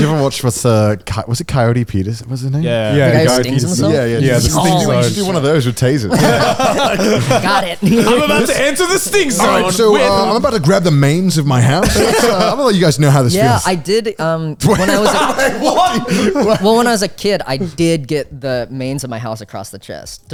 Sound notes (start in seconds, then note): 6.4 all laughing; 14.6 laughing